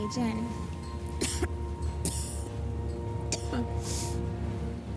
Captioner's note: coughing